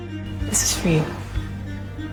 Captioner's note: voiceover